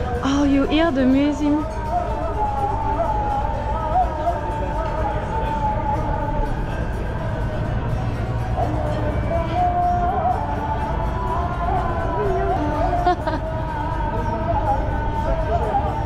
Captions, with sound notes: oh do you hear the muezzin? ** Sound of Muezzin proclaiming the call to the daily prayer ** [laugh]